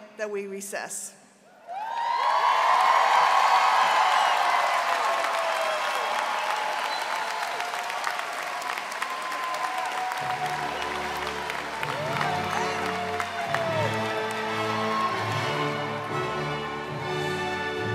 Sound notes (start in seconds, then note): 5.5 cheering and applause